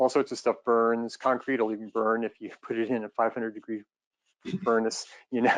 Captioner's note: laughs